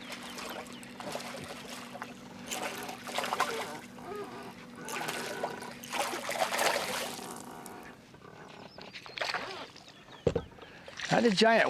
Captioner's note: splashing